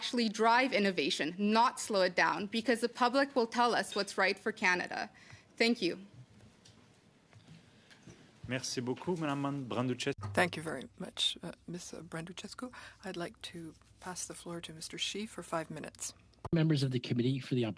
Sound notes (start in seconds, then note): 12.4 speaking FRENCH